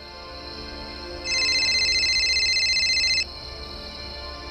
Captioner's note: phone ringing